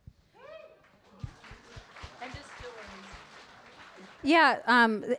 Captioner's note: audience applauding